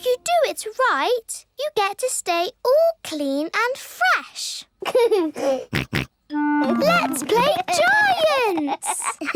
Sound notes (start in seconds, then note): 5.1 giggles, snorts